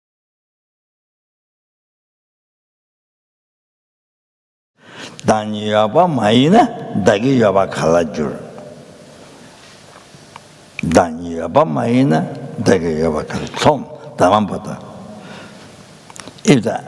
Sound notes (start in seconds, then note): 5.2 recites in Tibetan